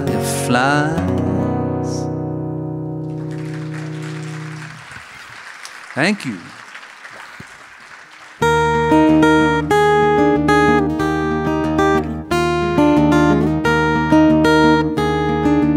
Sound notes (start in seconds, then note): 3.0 audience applauding; 8.4 bright acoustic guitar music